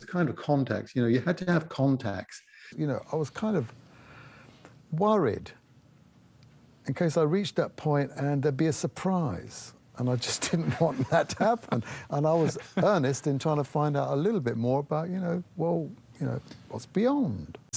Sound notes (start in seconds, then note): 10.4 laughs